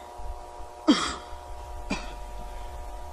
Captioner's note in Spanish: Estornudo